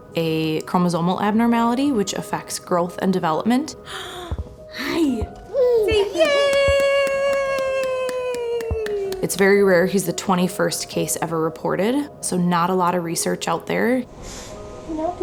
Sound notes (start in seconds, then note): 6.1 claps